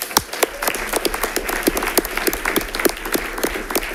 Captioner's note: audience applauding